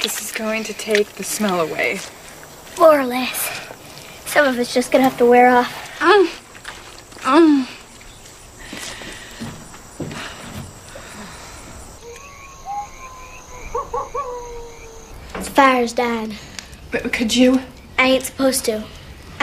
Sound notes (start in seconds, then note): 7.3 coyote Howling; 7.3 groans